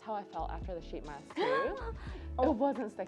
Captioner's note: gasps